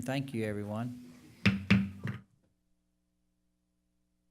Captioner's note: bangs gavel